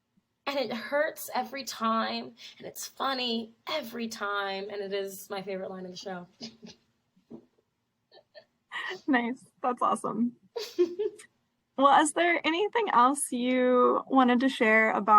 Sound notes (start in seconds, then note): 6.2 laughs; 10.6 laughs